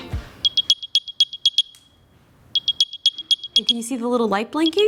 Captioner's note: Airpods chime